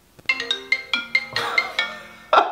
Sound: phone rings; laughs

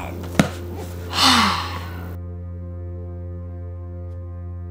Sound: sighs

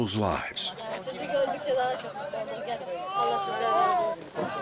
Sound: woman speaks Turkish

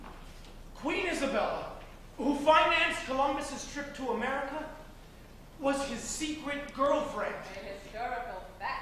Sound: MARVIN, spoken

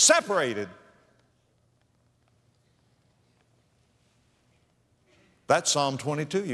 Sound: silence

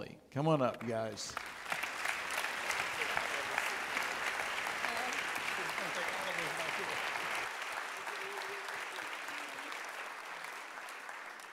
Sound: audience clapping

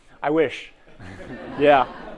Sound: laughter

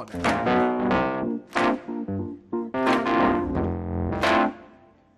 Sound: everyone clapping in rhythm

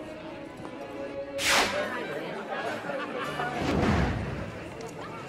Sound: chattering

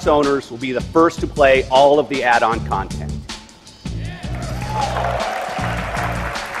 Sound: crowd cheer

